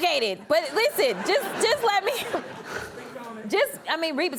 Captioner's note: audience laughs